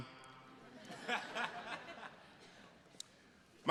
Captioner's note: attendees laughing